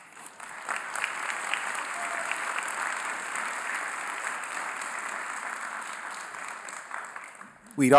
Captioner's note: applause